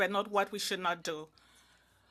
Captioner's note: speaking in French